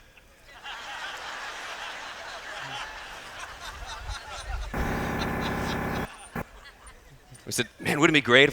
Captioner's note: laughter